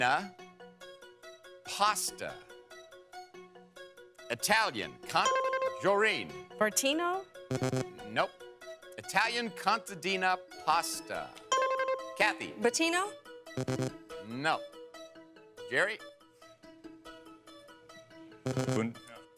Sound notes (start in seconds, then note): 5.3 buzzer rings; 7.5 bell buzzes; 13.6 bell buzzes